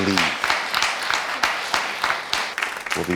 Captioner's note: audience applauds